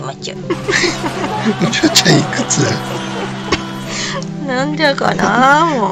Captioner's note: laughs